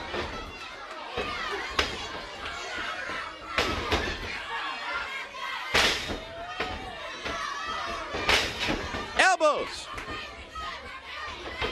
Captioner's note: crowd chatter